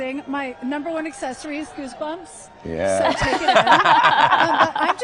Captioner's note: laughter